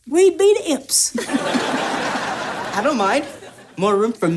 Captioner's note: audience laughs